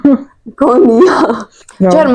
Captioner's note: giggle